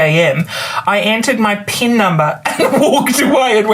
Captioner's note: laughs